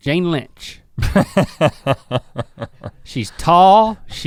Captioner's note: chuckles